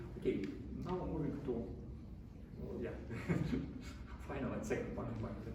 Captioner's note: chuckles